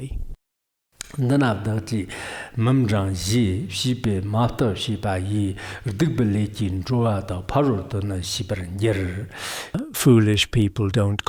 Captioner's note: giving oral transmission in Tibetan